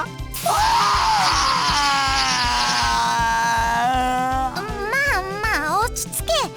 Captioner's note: bawl